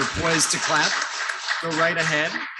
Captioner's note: audience applauding